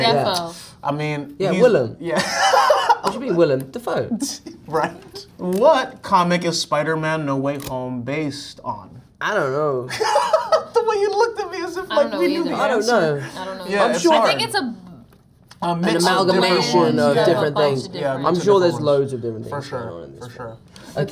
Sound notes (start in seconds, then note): 2.1 laughs; 4.8 laughs; 9.9 laughs